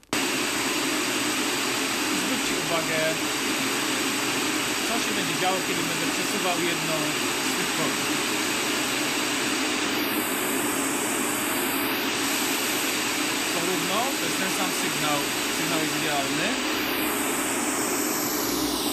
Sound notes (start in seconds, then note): 9.8 audible change in noise playback